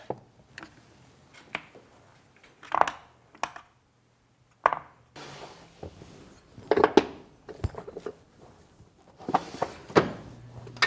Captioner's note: drawer opening; printing blocks clattering